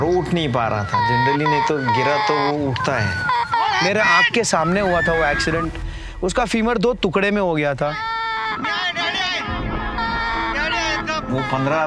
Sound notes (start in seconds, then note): 8.0 crying